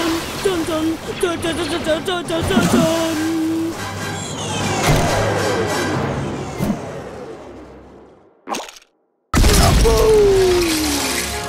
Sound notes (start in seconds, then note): 0.1 boy vocalizes; 8.1 squirt sound effect